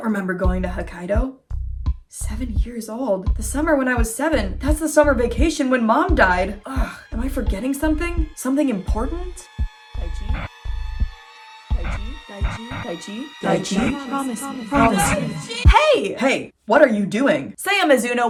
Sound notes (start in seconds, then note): 8.9 tense music builds; 11.8 echoing woman's voice interrupted by bursts of static; 13.2 distorted, echoing voice; 14.6 Akane yelling